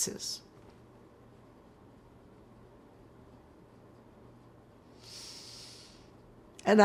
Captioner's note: pauses 6 seconds